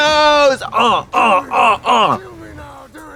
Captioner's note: Katya cheers